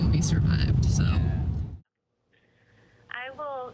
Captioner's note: whooshing